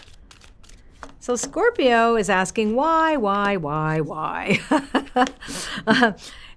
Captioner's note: laughs